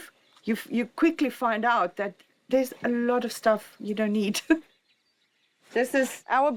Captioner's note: laughs